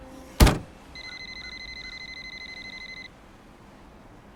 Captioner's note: cell phone rings